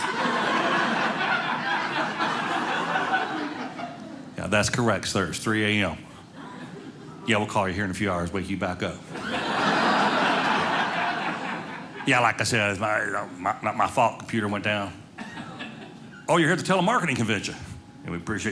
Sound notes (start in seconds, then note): 0.0 audience laughing; 9.0 audience laughing